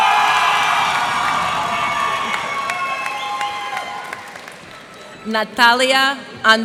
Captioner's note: cheers and applause